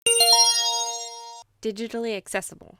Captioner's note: chime